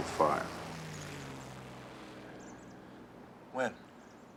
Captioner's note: plane engine roars